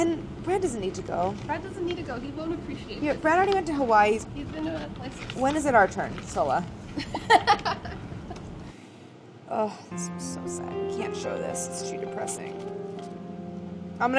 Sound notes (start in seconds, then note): 7.0 laughing; 9.8 emotional piano music